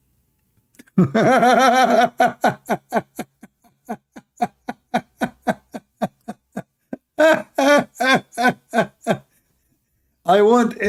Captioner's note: Ketawa